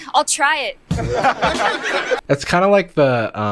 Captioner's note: crowd laughs